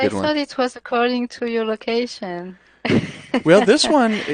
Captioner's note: laughs